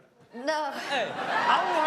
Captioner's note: chuckles; audience cheer and clap